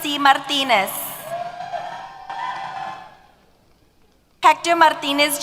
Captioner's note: applause & Cheers